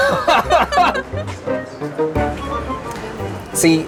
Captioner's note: both laughing